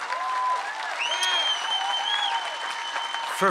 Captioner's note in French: Acclamations et applaudissements